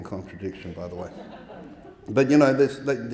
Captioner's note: audience laughing